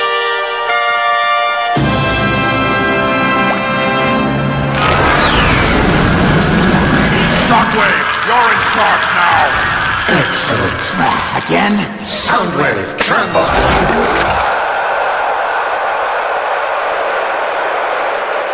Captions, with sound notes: [jet flybys, crowd cheering] Megatron - Shockwave, you're in charge now! Shockwave - Excellent. (Sigh) Again? "SoundWave transform." SoundWave - Affirmative.